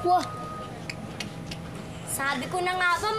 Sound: clicking tongue

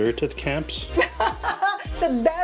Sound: laughs

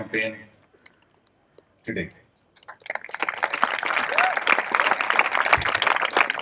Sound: applause

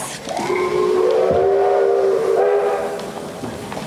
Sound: train whistle toots

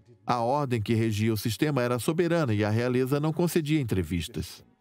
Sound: voiceover

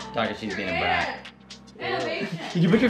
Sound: laughing

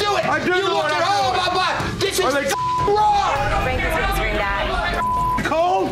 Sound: beeping

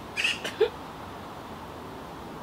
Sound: Anne snickers

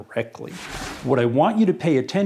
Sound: sliding

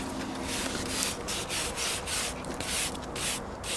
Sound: brush scraping

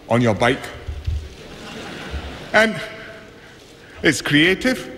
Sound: laughter

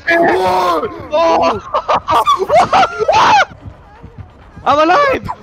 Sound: three of them laughing

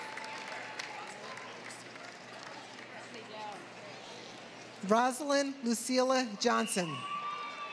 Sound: applause; applause

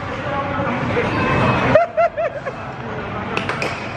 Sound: laughs

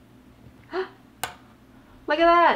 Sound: gasps

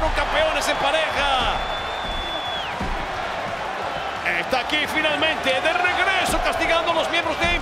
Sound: applause

